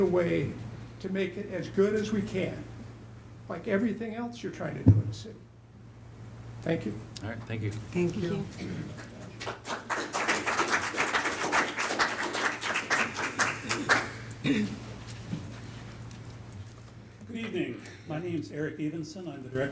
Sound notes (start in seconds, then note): 8.9 applause